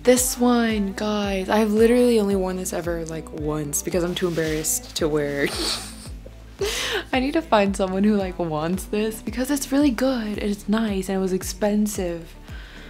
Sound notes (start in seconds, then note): 5.4 laughs